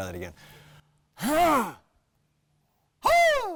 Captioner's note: clears throat